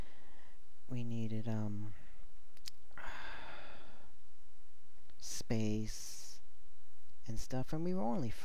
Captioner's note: sigh